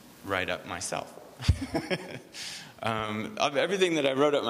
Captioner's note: laughs